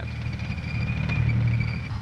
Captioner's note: tank engine rumbling